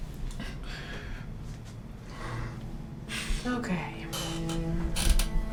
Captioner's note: Mr. Young softly sobs